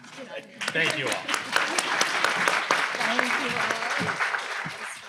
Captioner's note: audience applauds